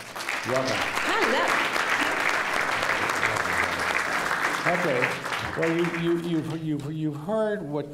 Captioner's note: applause